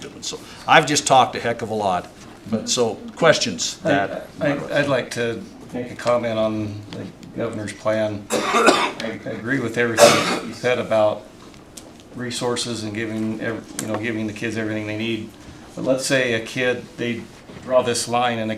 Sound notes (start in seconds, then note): 10.0 clears throat